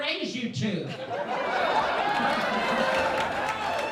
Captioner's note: laughing